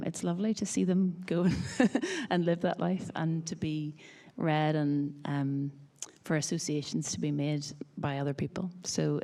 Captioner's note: laughs